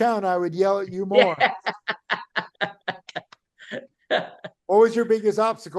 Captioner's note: laughing